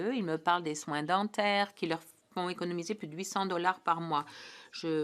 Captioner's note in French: voix de l'interprète